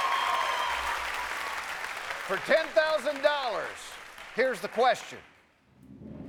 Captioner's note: cheers and applause